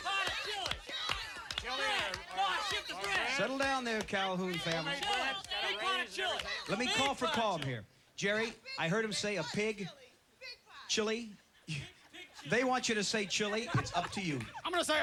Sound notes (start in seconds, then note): 0.2 yelling answers; 5.0 yelling